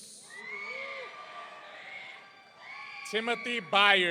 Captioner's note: audience cheering